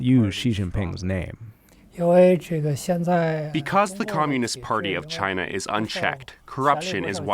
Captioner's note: through translator